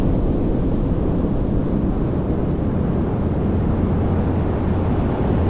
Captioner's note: none